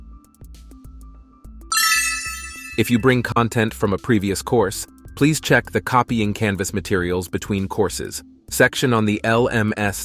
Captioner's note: idea cling